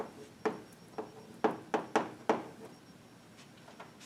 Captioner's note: chalk tapping